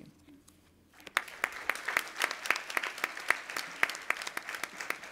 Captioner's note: audience applauding